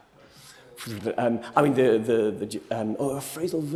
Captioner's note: hesitates